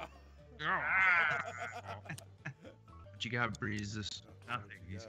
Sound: laugh

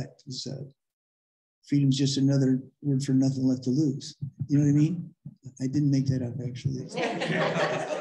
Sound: laughter

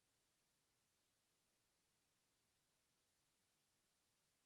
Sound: none

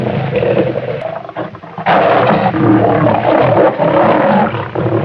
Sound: another angry Lion sound

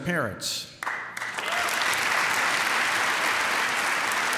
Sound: applause

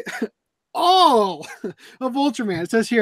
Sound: laughs

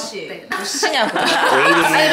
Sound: laughing

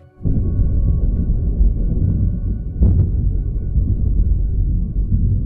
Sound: thunder rumbles

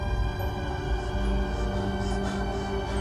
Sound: scared breathing

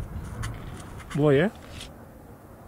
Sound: Spanish

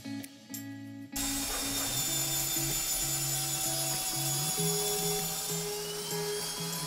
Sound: drilling

